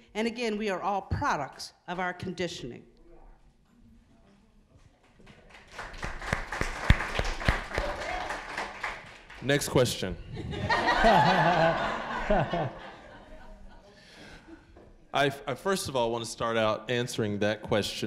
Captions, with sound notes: and again, we are all products of our conditioning. (applause) >> Next question. (audience laughing) First of all, I wanna start out answering that question